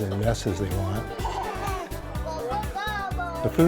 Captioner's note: laughing